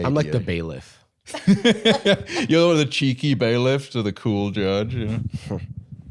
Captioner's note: laughs